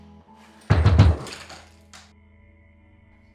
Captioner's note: door banging